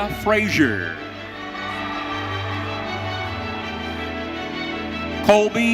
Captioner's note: audience cheering